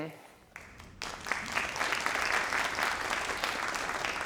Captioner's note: crowd applauding